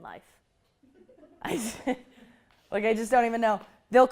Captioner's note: laughter